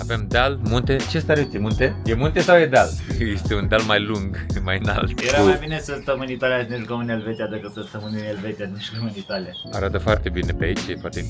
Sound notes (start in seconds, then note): 5.1 laughs